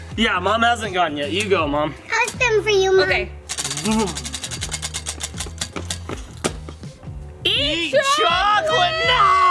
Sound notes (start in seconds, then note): 3.5 wheel spinning